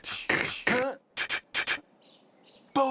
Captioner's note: beatboxing